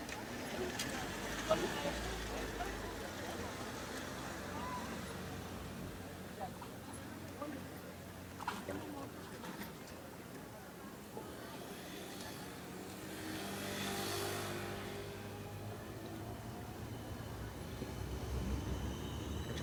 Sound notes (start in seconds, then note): 0.0 people chattering faintly; 0.2 car engines humming; 6.7 people chattering faintly; 11.9 car engines purring; 17.3 tram thudding